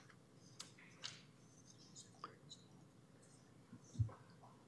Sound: whispering

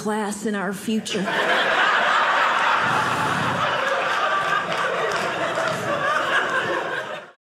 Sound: audience laughing

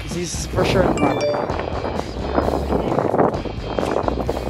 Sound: wind blowing

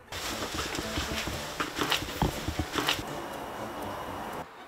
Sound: thump

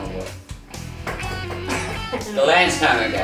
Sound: knocking on chair

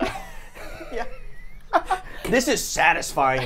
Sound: both laugh

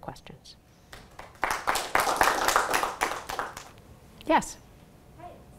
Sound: audience applauding

